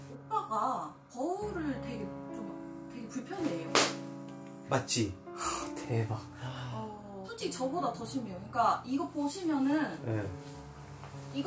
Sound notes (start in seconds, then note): 3.7 clap